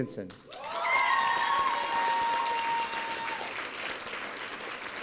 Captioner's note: applause and cheering